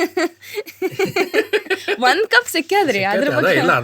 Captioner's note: laughs